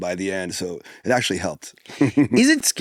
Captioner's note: laughs